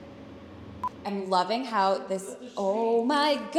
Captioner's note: monitor beeping